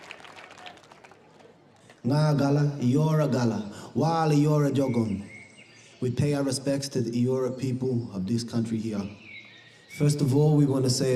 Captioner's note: cheering and applause